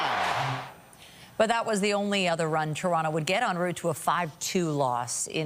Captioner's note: applause